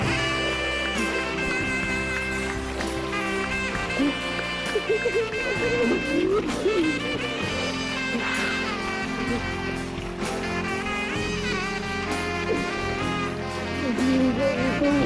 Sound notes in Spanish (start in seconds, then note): 7.2 aplausos